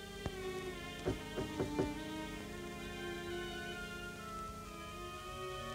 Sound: knocking on door

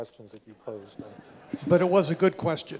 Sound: laughter

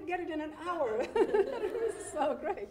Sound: laughing

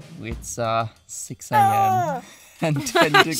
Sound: babbling

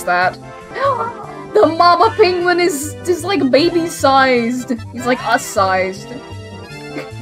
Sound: gasp

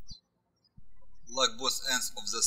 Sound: birds chirping

